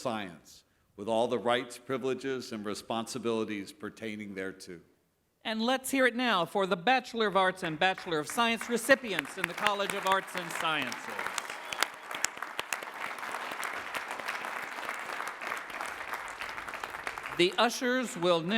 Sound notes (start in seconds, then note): 13.9 applause